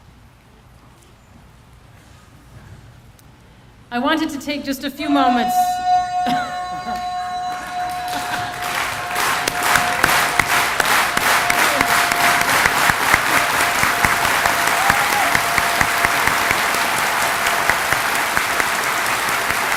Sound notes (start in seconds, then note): 8.2 extended yell; 10.3 choreographed Clapping